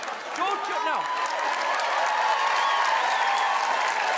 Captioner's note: audience Clappin